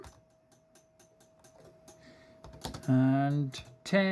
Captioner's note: table rattling sound